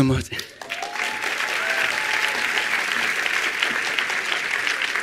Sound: attendees applauding

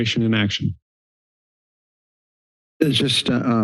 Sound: silence

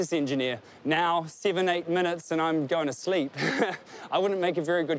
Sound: laughs

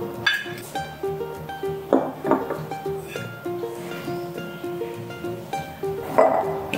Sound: sigh

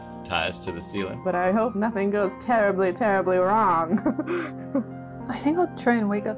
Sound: laughs

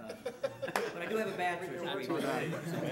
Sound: audience laughing

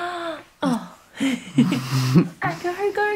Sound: parents laugh

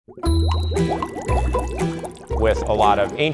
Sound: bubbling; mysterious music

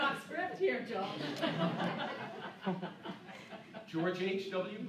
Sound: laughing

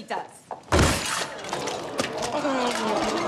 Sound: moaning; guests gasping

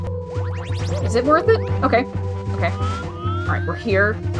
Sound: none

